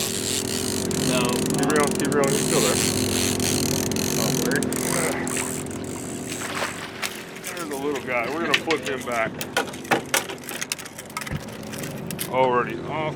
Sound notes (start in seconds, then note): 4.9 reel cranking; 5.7 fish splashing; 10.2 fish thrashing